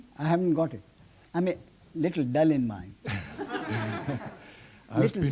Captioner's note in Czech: smích